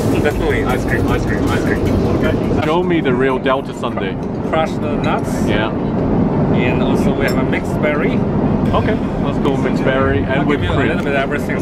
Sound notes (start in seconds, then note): 2.3 laughs